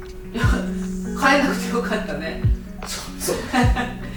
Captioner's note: laughs